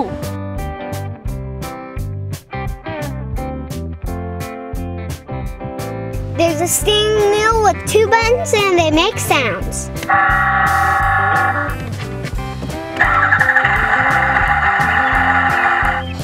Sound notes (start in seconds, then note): 10.1 honk; 12.8 engine starting